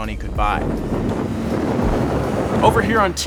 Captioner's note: car engine roars